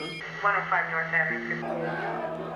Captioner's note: crowd clamoring on TV